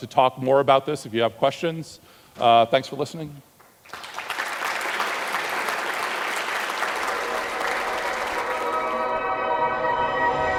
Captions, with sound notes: to talk more about this if you have questions. Thanks for listening. (audience applauds) (electronic music)